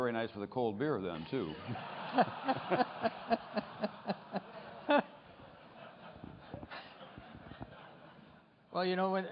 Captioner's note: laughter